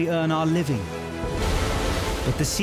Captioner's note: waves crashing